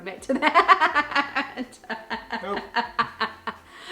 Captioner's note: laughs loudly